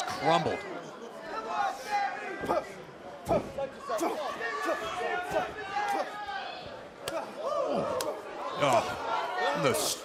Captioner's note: crowd cheering